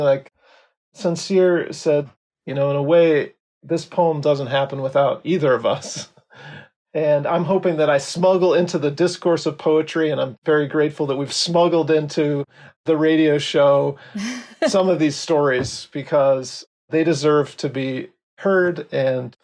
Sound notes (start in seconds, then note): 5.8 chuckles; 14.1 laughs